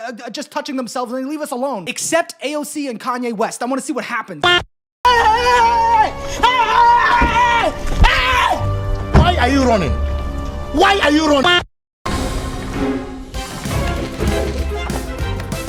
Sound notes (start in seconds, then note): 0.0 stammering; 5.0 screaming